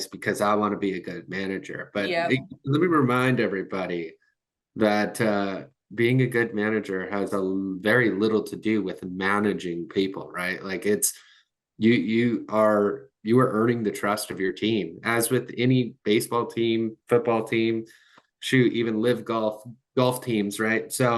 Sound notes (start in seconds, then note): none